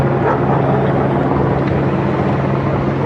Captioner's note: dogs barkg